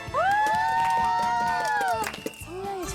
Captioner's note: cheering